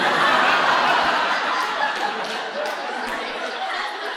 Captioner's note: audience laughing